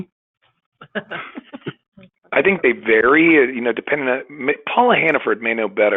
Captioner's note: laughter